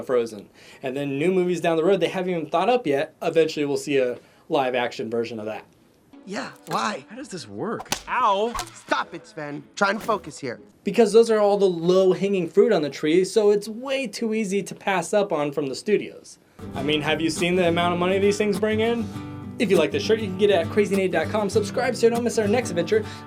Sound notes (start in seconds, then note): 7.8 smack